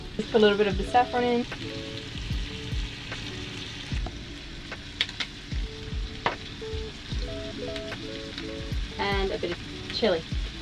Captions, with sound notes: Just a little bit of the saffron in. (fat sizzles) And a bit of chili.